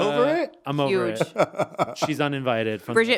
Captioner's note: laughing